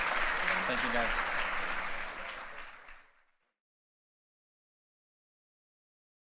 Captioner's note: applause